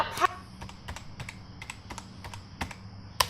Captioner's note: clicking and typing